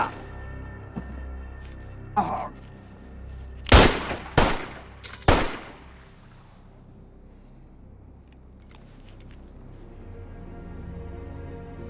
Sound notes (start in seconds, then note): 3.6 gunshot; 3.7 camera shutter clicks